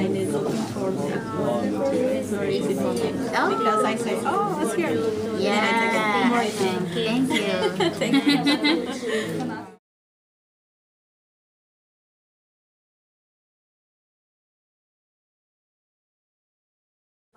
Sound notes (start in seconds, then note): 7.3 giggles